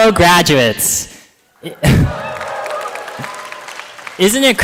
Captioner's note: applause